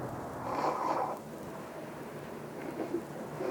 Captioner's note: blows nose